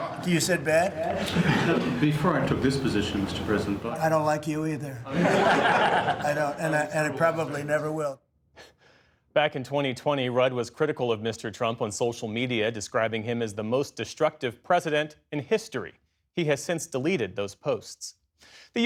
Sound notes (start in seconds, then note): 0.0 laughter; 5.0 laughter